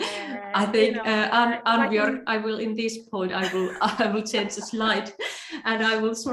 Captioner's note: laughs